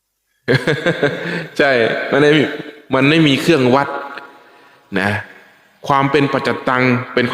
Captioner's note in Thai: เสียงหัวเราะ